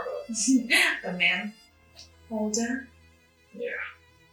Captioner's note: laughs